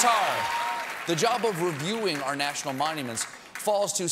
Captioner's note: applause